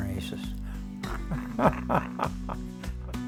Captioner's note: laughs